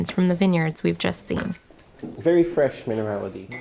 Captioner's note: sounds of glasses clinking, wine being poured